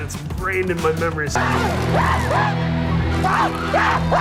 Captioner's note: everyone screaming